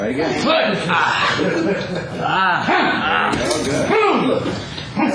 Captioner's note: grunting